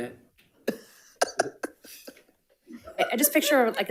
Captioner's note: all laughing